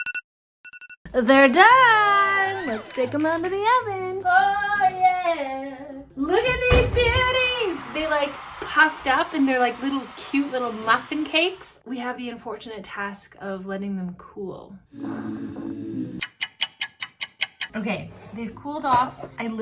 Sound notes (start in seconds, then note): 8.2 crowd cheering; 16.2 ticking sound